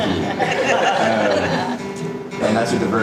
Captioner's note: audience laughing